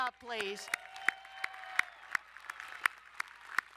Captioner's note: applauding